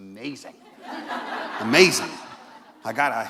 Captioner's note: laughter